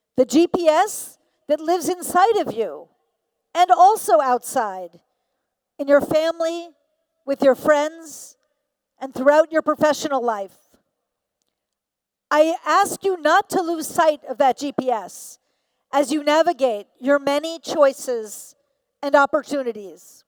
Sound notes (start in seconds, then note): none